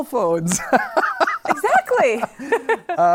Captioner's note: laughter